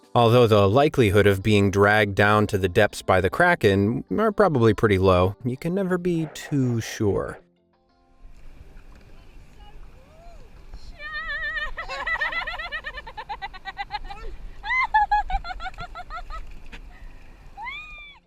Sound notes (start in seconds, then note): 11.0 woman laughing